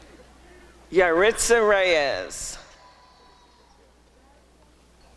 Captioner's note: applause and cheering